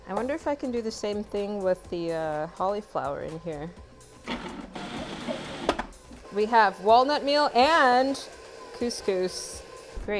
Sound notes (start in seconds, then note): 4.3 grinding